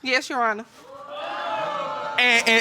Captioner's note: audience gasps